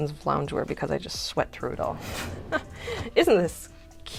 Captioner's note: laughter